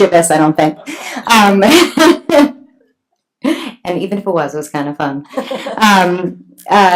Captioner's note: laughs